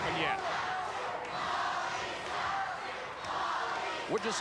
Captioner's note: audience chanting